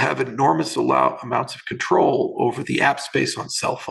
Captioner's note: murmurs